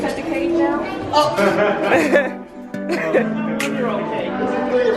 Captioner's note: laughing